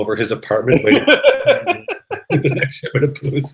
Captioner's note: laughter